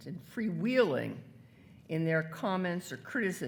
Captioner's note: none